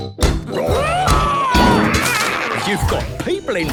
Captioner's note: all roaring